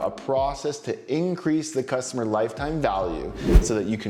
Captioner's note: air whooshes